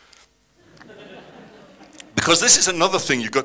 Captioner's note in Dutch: publiek lacht